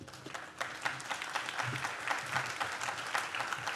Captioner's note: audience claps